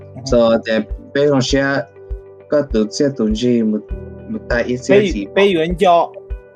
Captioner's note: speaker uses foreign language